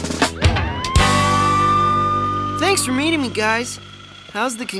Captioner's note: sirens wailing